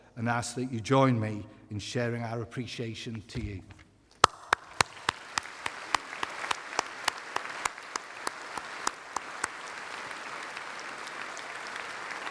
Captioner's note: applause